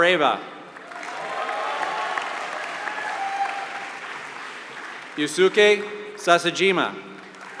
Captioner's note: applause; applause